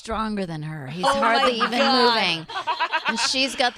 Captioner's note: laughing